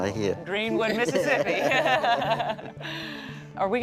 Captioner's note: laughing